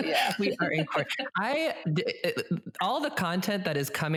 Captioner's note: laughs